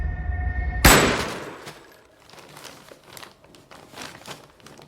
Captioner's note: gun firing